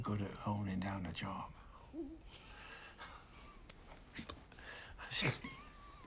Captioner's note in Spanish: risas